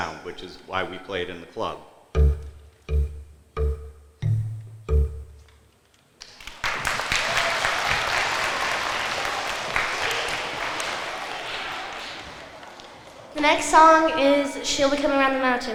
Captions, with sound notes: which is why we play it in the club. (rhythmic notes) (applause) - The next song is "She'll Be Coming Around the Mountain."